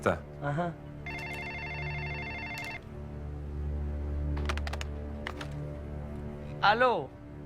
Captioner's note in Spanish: Suena el teléfono